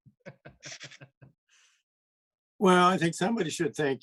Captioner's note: laughs